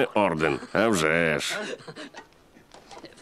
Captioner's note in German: lacht